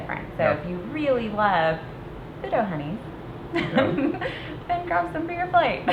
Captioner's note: laughs